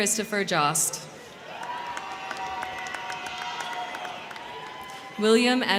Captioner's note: crowd cheering; crowd clapping